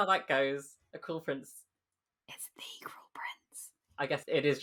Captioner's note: whispering